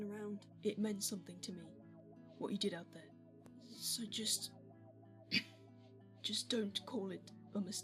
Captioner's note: James coughs